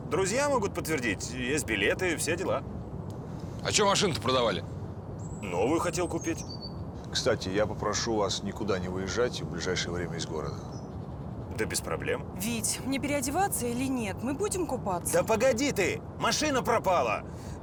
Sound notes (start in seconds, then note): none